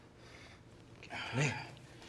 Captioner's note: groans